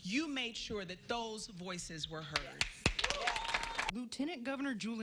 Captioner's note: applause